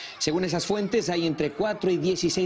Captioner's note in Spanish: gritos de niños